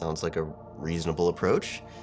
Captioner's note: none